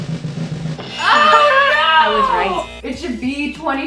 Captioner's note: gasping